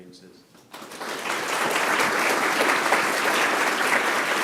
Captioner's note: applause